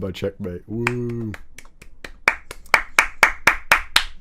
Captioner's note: applauds